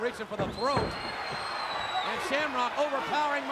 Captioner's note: audience cheering